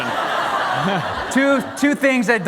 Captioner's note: laughter